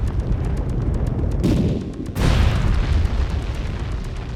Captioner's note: loud boom; weapon blasts; loud boom; intense music